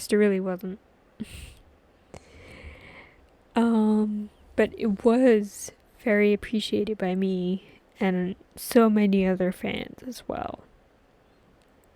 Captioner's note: clears throat